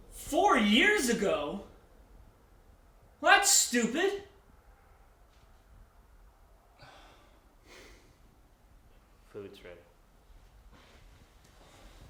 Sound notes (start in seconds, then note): 6.8 sighs